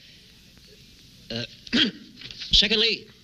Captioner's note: coughing